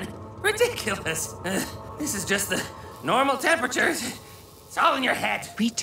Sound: chuckles

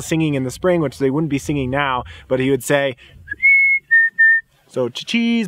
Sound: whistling

